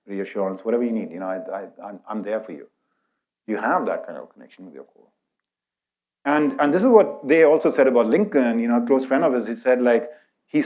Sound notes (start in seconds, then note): none